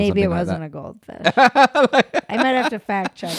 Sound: laughs loudly

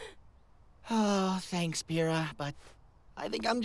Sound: sigh

